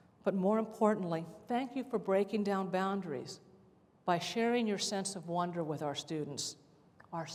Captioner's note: none